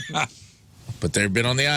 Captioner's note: laughing